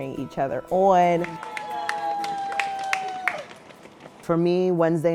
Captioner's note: people cheering and clapping